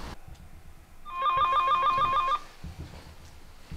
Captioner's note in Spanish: Suena el timbre